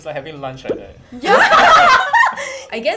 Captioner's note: laughing